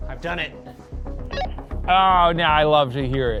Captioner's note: radio beeps